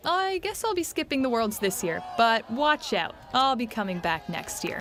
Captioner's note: cheers